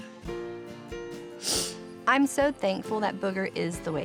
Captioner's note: says tearfully